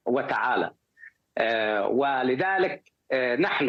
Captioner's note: speaking in a global language